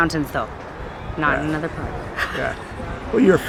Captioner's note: laughs